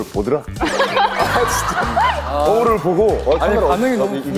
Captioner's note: everyone cracking up at the witness